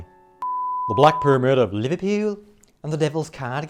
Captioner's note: putting on a bad Liverpudlian accent